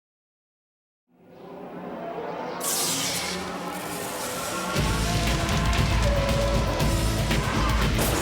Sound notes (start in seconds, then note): 3.2 pyro bangs; 4.7 upbeat music